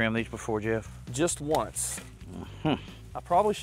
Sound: chuckles

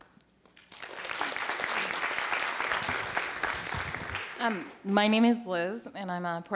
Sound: applause

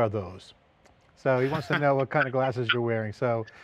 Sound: laughing

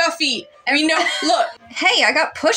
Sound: laugh

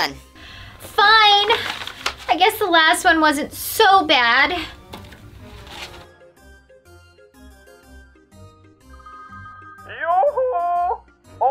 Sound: phone rings

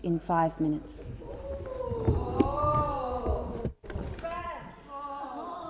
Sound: honourable Members Interjecting

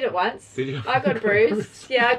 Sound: laughs

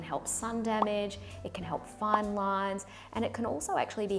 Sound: popping

